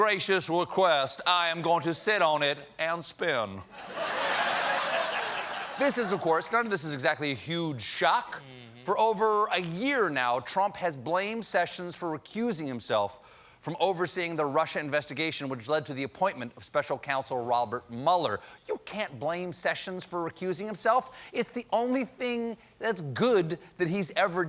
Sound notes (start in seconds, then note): 3.7 laughter